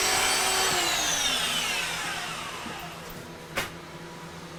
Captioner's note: tool shutting off